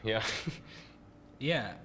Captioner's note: chuckles